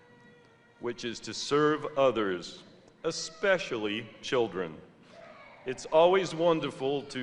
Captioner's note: muffled sounds of a baby crying in the audience